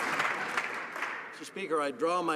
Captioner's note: some Applause